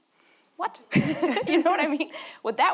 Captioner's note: both laughing